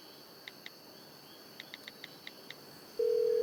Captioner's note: dialing cell phone; cell ringtone